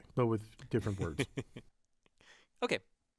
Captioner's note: laugh